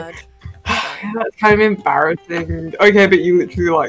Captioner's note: sigh